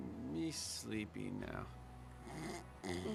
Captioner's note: snoring